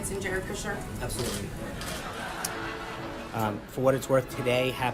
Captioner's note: laugh track